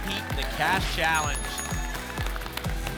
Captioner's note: ding, ding, ding; whoosh; applause and cheering